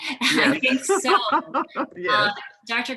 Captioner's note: chuckling